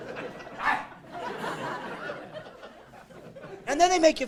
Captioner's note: laughing; growling; barking